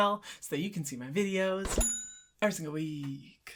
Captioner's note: bell ringing